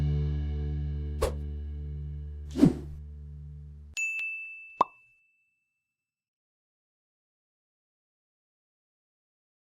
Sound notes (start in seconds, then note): 2.6 wind whooshing; 4.9 lid pops